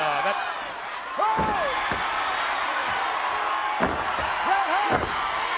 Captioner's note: audience cheers